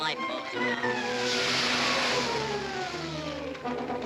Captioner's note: water sloshes